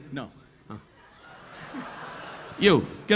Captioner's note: audience laughing